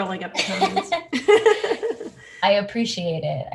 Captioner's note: both laugh